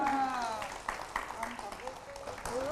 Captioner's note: applause